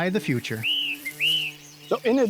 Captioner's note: bee buzzing